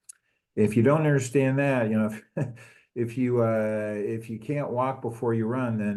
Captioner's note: laugh